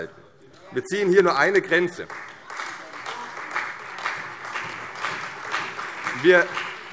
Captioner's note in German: Beifall CDU und Freie Demokraten